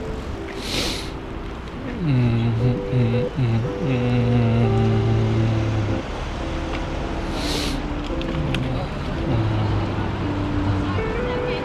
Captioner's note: wind Blowing